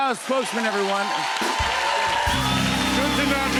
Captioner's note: cheers and applause